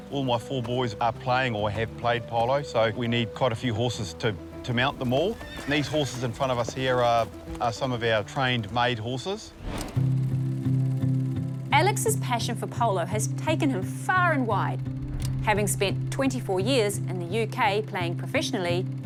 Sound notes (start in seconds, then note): 9.7 projector whirrs; 9.7 reflective music